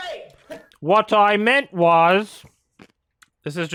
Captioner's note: mockingly